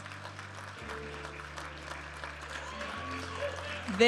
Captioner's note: audience applauding and cheering; upbeat music